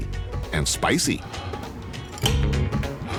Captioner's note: exhales deeply